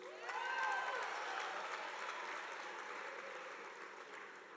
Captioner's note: audience applauding